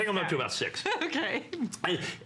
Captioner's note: laughter